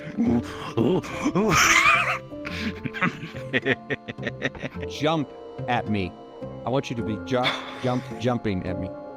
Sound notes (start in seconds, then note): 0.8 laughing